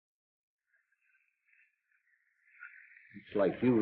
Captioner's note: rocker box squeaks rhythmically